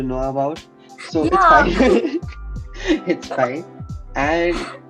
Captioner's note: laughs